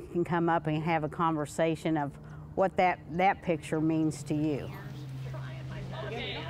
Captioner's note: all chattering indistinctly